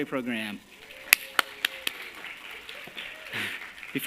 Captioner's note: applause